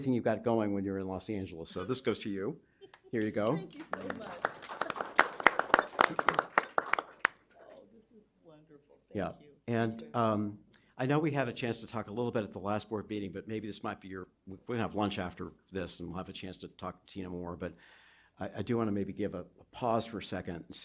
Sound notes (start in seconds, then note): 5.4 applause